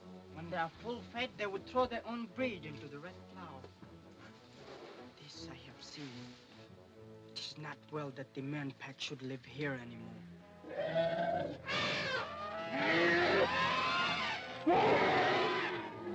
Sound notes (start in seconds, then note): 10.6 elephants trumpet